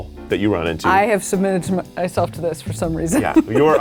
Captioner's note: laughs